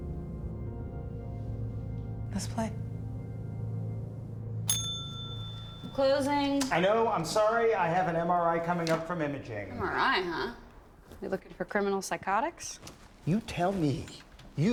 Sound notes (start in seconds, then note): 4.6 bell rings